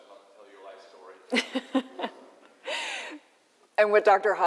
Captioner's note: laughter